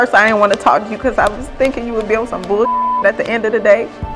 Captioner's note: beep